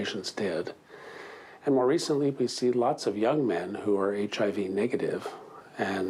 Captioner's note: speaking foreign language